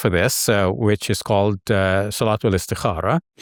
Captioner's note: speaks foreign language